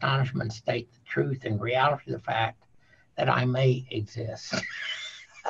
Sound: laughing

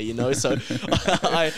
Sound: laughing

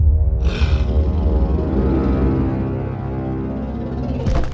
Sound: ominous music; dinosaur's rasping growling; heavy footsteps

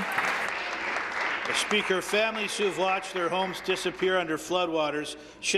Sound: applause

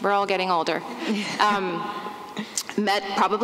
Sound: laughs

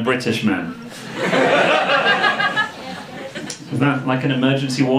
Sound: audience laughing

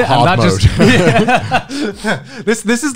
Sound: everyone laughs

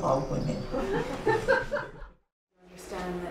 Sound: laughter

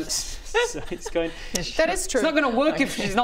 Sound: troll giggle

